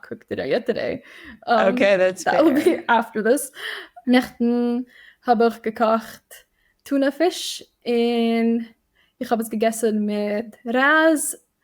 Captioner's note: Yiddish